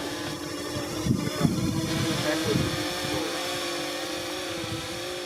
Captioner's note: buzzing drones